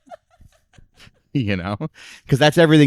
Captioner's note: laughing